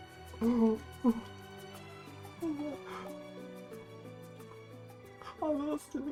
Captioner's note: sobbing